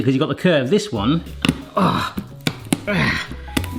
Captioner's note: grunts